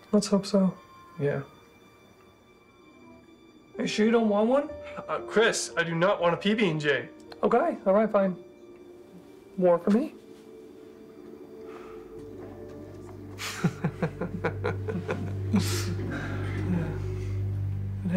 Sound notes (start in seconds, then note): 12.1 Thomas sighs; 13.4 Thomas laughs